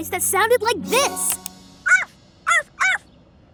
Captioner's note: barking